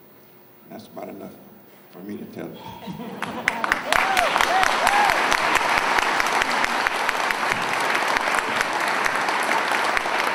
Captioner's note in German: Beifall